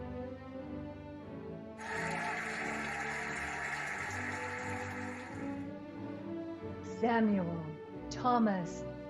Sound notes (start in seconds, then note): 1.8 cheering and applauding